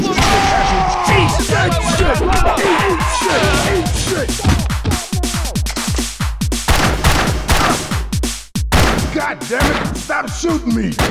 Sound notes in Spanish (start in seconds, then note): 0.1 Coach grita; 7.4 Coach se queja